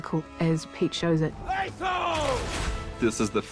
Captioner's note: shouts in quenya